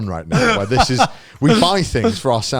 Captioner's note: laughs